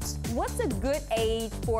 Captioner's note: none